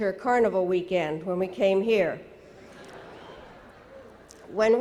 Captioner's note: audience laughing